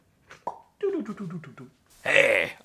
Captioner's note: popping